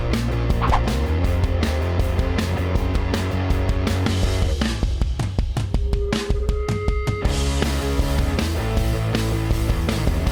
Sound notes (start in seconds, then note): 0.6 whip cracking; 1.6 rock music; 4.4 drumming; 7.6 rock music